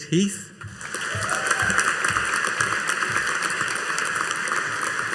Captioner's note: audience applauding